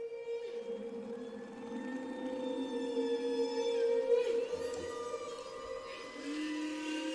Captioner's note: whales calling